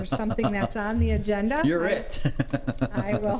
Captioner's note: laughs